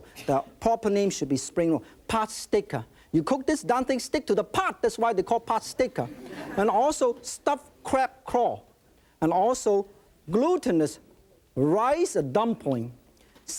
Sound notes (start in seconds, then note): 6.0 audience laughing